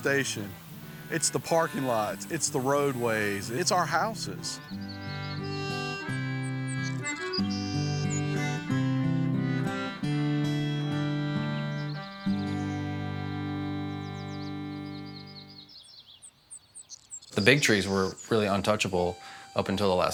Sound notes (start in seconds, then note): 4.2 birds chirping; 7.4 appalachian folk music continues